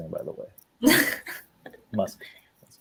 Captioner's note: giggles